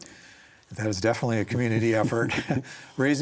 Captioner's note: both chuckle